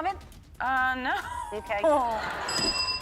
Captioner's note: laughing; crowd members laughing